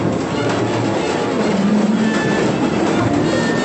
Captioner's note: thunder